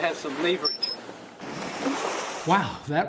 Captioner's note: sound of waves splashing